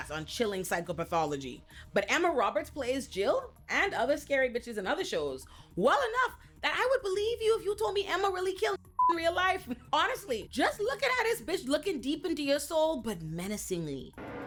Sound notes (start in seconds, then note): 8.9 beep